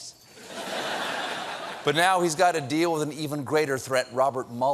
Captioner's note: laughter